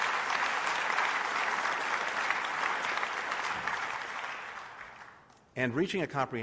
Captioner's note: applause